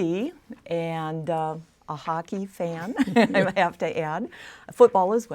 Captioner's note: laughs